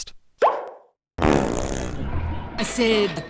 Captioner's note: gun fires fart